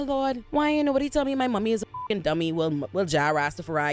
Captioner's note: beep